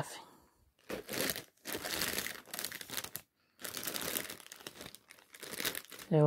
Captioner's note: sound of plastic bag rustling around